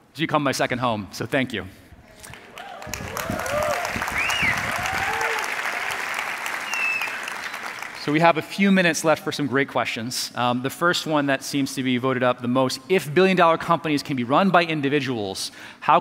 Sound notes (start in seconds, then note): 2.2 audience applauding